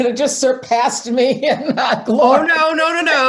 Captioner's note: laughs